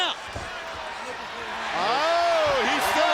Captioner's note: crowd cheering